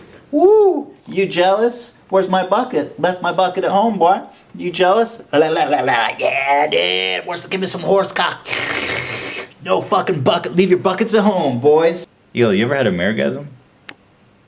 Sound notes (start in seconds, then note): 8.4 slurping noises; 8.4 slurping noises continue